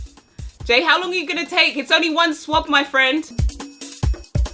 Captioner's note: shouting